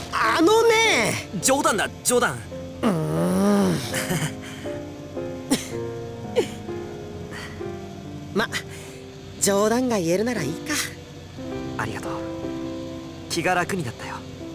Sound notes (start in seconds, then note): 2.8 grumble; 4.3 awkward chuckle; 6.4 chuckle; 8.6 relaxed breath